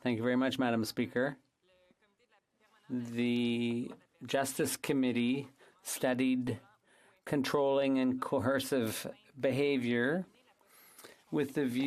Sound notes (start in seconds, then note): 4.4 speaking French